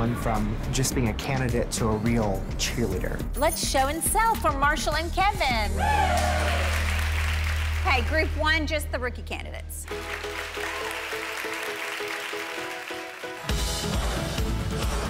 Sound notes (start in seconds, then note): 5.7 ladies cheer and applaud; 9.8 ladies clap